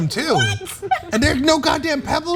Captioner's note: laugh